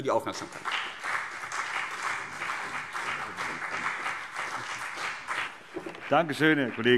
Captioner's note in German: Beifall CDU und BÜNDNIS 90/DIE GRÜNEN